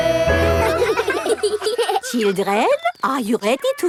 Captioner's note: children laughing